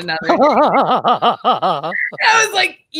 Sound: both laugh

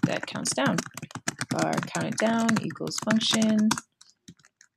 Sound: typing

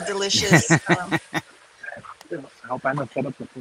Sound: laughing

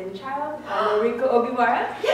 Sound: gasps!!

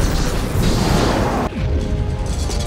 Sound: explosion

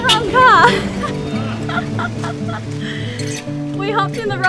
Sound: laughs

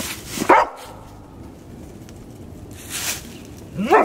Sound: dog barks

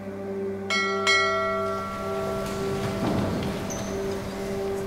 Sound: bell rings

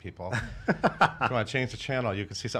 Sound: laughter

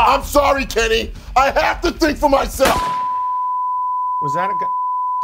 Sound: gunshot

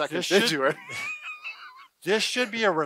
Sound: laughing

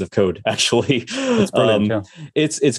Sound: laughs

